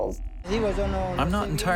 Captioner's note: speaking Spanish